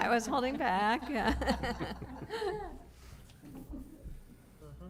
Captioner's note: laughter